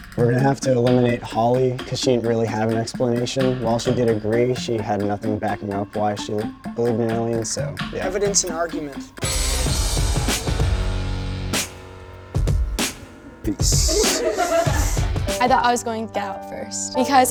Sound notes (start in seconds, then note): 9.6 dramatic music; 13.6 girls laughing